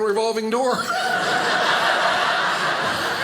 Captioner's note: audience laughing